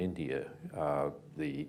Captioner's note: none